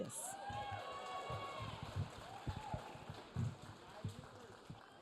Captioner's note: audience cheering